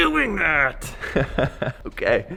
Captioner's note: laughs